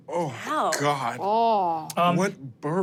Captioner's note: groans